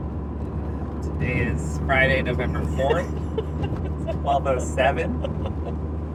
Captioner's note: laughing